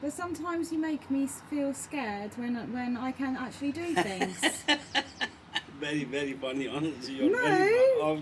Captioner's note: laughs